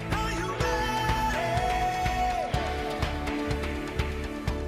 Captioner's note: applause